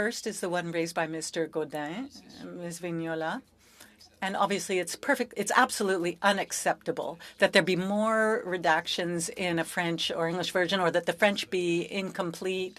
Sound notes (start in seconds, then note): 1.0 speaking French